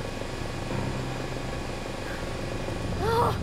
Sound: helicopter whirring

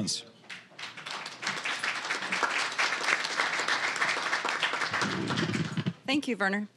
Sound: applause

